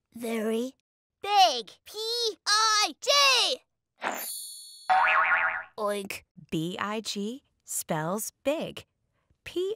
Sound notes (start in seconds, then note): 4.1 twinkling noise; 4.9 springy sound